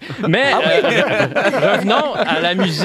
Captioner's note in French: rires